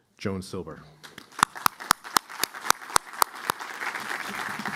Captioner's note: applause